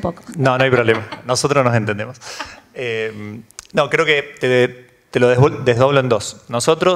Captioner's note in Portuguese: risos